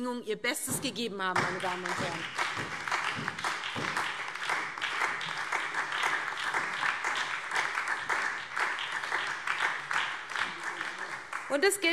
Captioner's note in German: Beifall SPD und vereinzelt BÜNDNIS 90/DIE GRÜNEN